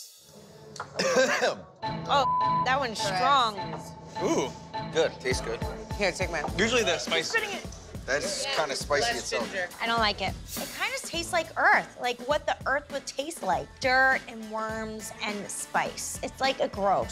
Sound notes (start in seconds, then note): 0.8 Pauly coughs; 2.1 beep